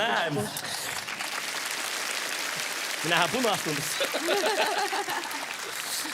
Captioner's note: applause